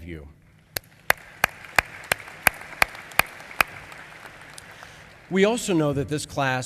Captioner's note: applause